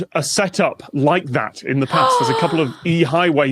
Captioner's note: gasps